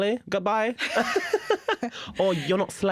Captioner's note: laughter